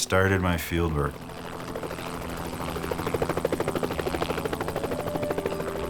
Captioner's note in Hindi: हेलिकॉप्टर की तेज आवाज़